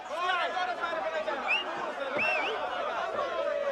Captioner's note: whistling in crowd